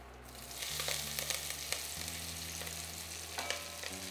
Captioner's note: sizzling sound